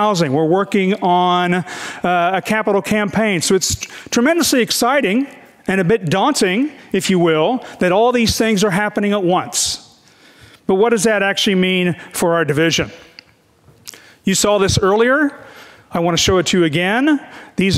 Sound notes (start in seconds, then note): none